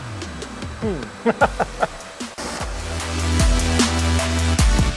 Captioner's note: laughs